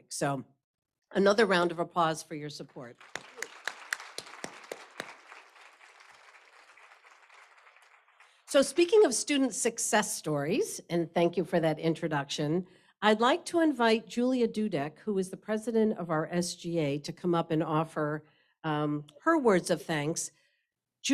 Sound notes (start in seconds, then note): 2.8 applause